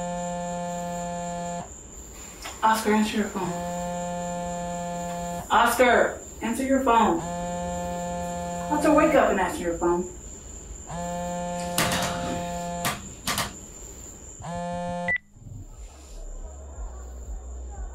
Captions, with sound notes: - Oscar, that's your phone. (phone buzzing) Oscar. Answer your phone. Oscar wake up and answer your phone. (phone buzzing) (phone beep)